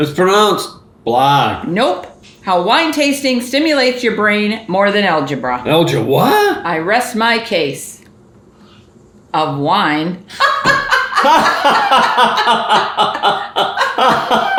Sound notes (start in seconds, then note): 10.3 parents laugh